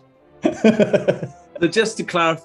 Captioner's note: laughing